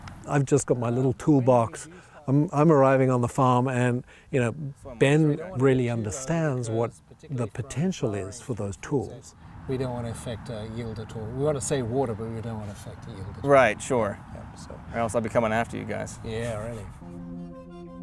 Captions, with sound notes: - I've just got my little toolbox, I'm arriving on the farm and, Ben really understands what the potential is for those tools. We don't wanna affect yield at all. We wanna save water, but we don't wanna affect yield at all. - Right sure else I'll be coming after you guys. (laughs) Yeah really.